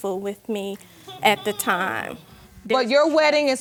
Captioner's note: audience exclaiming